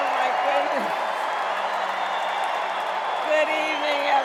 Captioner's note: cheers and applause